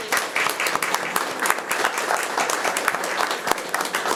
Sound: all clapping

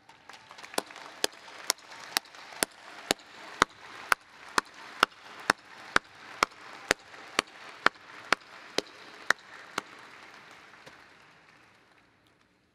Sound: applause

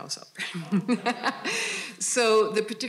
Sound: all laughing

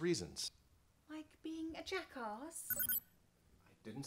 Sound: communicator continues to chirp

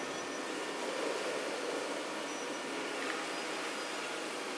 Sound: crane engine revs

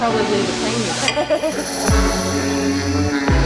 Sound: laughter

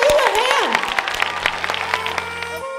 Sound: applause

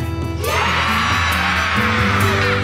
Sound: crowd cheering

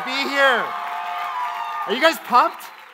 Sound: audience cheers

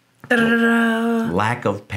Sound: imitating drum roll

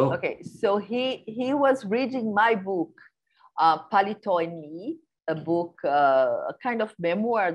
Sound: non-english speech

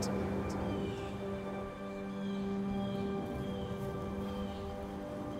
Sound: birds cawing

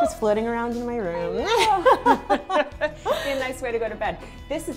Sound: laughing

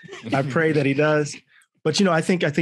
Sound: all chuckling

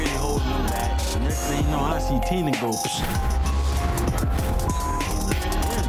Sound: pop; beep

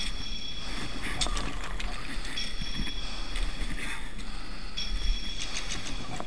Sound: panting

